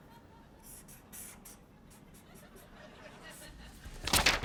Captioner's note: laughter